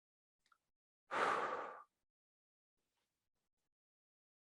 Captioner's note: exhales